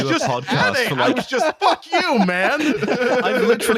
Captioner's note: laughter